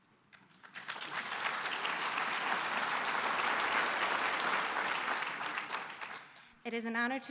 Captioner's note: applause